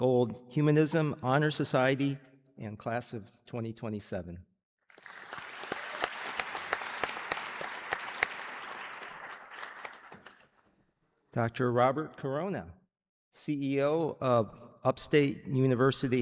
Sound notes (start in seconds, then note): 2.6 applause